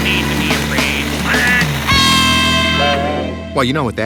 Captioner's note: screaming